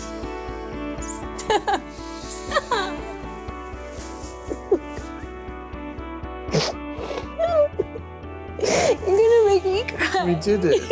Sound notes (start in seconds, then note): 0.2 calm music; 1.8 woman sobbing